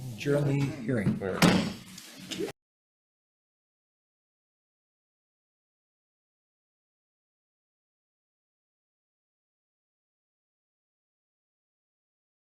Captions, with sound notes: Adjourn the hearing. (gavel hammering)